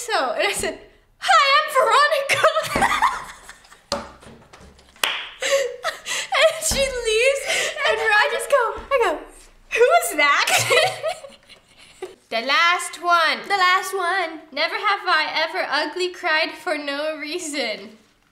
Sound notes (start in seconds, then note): 2.3 laugher; 10.4 laughs